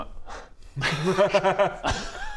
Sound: no-pressure giggles

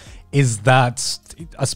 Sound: none

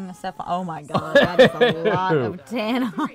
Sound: laughs

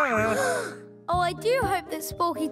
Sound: gasps

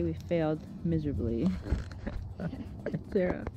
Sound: both giggle

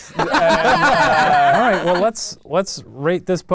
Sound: laughing

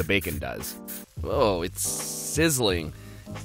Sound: spraying

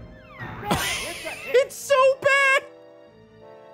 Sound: laughs

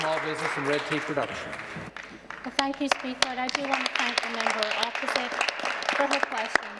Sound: applause

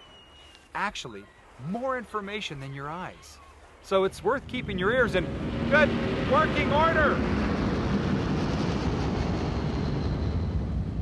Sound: plane flying overhead

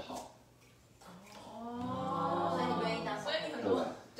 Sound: everyone: ohhhhhh

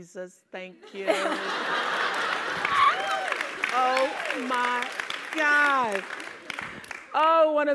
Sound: laugh

